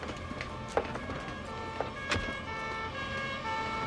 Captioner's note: siren Wailing